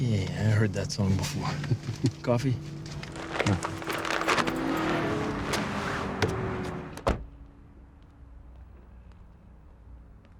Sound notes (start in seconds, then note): 1.5 Pietro chuckling; 5.2 engines roaring